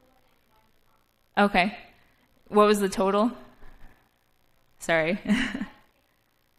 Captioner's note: laugh